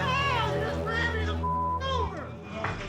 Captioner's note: beep